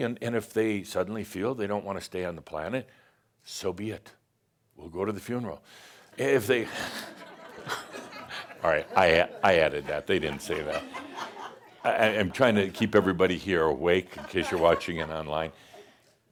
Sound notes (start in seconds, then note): 6.6 laughter